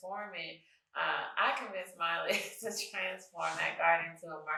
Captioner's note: chuckles